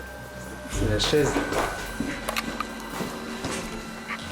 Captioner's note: anticipating music; speaks French